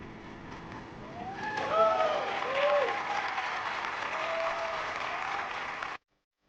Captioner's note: audience cheers and applauds